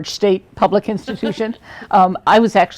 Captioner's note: laughing